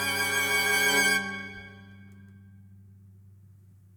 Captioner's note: silence